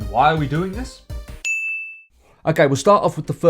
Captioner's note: ping